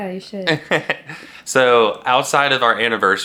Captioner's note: chuckles